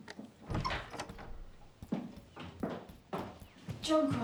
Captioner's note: door creaking